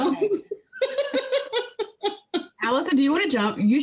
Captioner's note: laughing